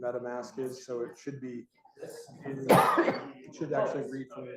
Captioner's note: coughs